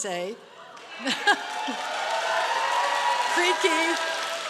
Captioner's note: applause